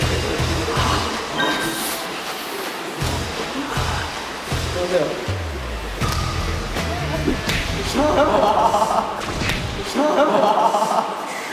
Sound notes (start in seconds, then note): 7.2 clap